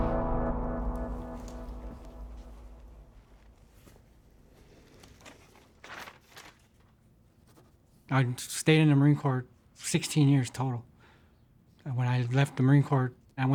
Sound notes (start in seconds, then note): 0.0 calming music ends; 4.4 paper fluttering